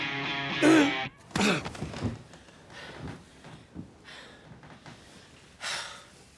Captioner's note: dramatic rock music; Tommy groaning; Tommy straining; Angela gasping; Angela sighing